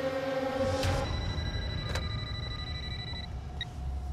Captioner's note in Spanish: suena el teléfono